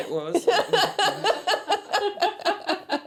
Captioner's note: laughter